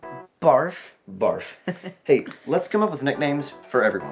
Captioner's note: chuckling